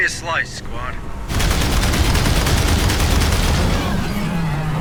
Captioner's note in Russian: гулкие выстрелы